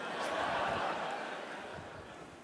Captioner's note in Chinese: 笑聲